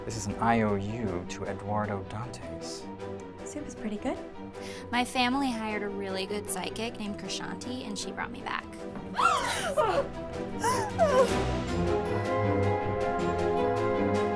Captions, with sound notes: This is an IOU to Eduardo Dantes. The soup is pretty good. My family hired a really good psychic named Krishanti and she brought me back. *gasps*